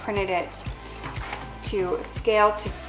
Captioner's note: rustling